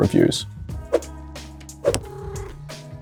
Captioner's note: whoosh; cat purrs